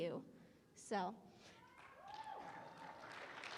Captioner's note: applause